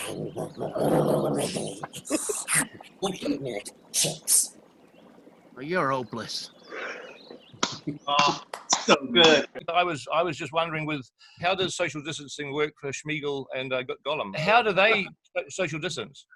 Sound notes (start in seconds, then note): 8.1 group claps